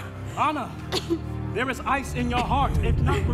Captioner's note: Anna coughing